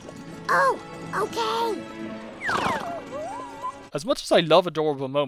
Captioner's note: deflates, whimpers